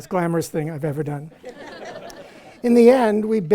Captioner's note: audience laughs